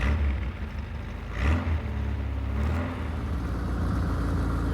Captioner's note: engine revving